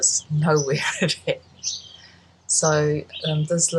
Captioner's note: laughs